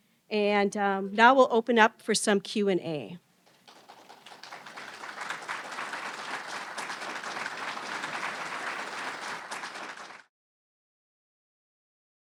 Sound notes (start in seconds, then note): 5.0 audience applauding